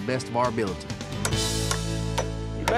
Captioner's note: hammering